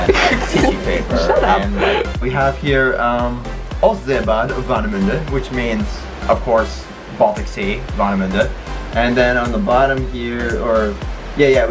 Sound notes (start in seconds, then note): 0.0 lols; 4.0 speaks German